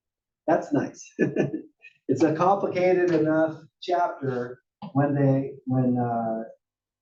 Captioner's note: laugh